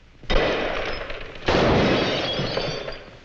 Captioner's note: glass shatters; gunshot bangs